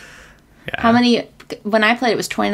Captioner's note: laughs